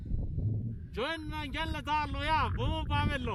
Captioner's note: shouting